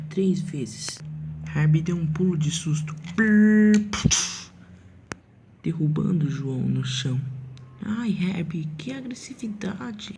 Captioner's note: trash sound effects haha